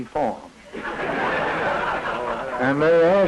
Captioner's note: laughter